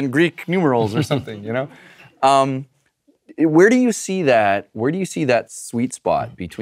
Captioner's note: laugh